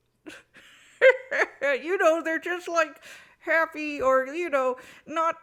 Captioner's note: laughs